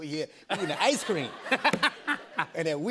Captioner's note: laughter